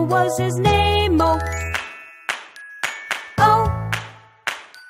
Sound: clap

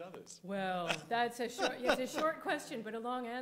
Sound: laughing

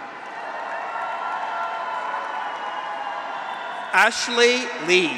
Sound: audience applauds; graduates cheer

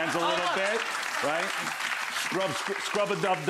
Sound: audience applauding

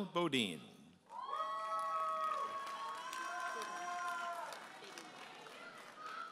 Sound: audience applauding and cheering

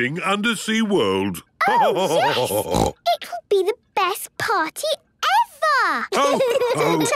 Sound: laughter and snorting; laughter

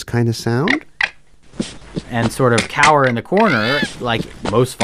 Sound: fox chirping sound

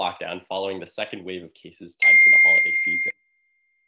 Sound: beep

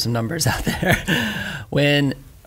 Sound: laughs

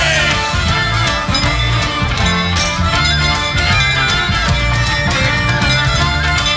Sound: bell ringing

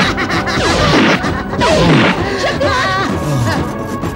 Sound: laughs

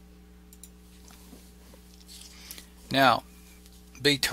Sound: mouse clicking

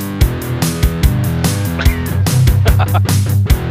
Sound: laughing

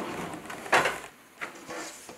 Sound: rumble

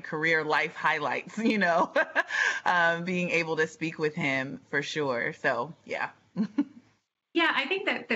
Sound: laughing

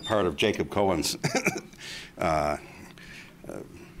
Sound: laughs

